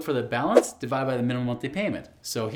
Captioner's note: air whooshing